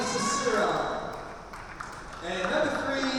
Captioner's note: spectators applaud